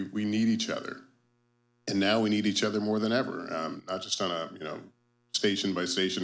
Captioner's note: none